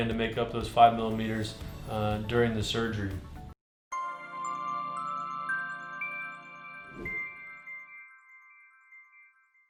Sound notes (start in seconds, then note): 4.0 electronic bells jingling